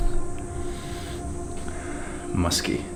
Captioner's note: sniffing